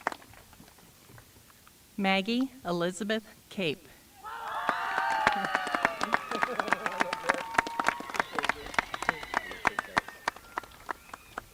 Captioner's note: applause